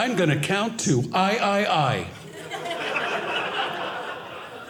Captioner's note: audience laughing